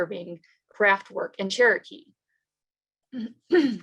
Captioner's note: clears throat